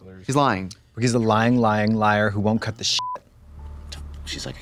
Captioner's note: beep